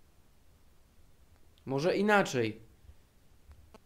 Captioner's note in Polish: ponownie w tle zakłócenia